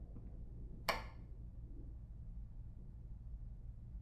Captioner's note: switch clicks